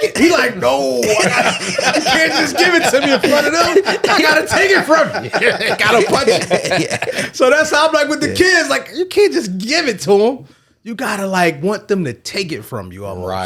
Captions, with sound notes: He like, no. (laughing) - I'm just giving some of your blood and oh, I gotta take it from you. Got a punch. So that's how I'm like with the kids, like you can't just give it to them. You gotta like want them to take it from you almost.